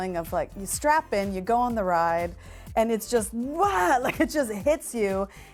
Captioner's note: yelling